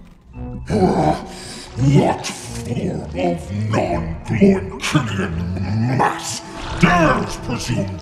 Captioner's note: growls